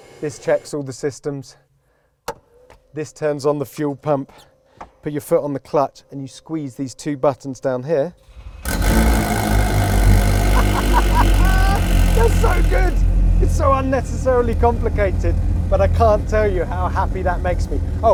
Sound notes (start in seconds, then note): 9.1 car engine roars